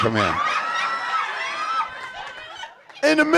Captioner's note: audience howling